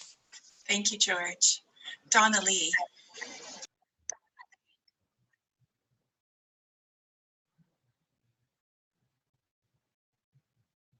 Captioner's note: silence